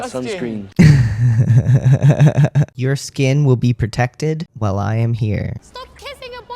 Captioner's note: laughter